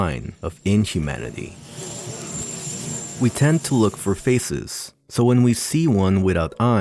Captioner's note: alien hiss